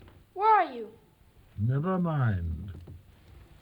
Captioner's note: none